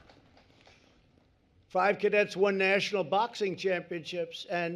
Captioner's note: applause